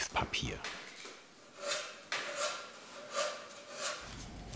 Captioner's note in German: Metallischer Ton beim Schleifen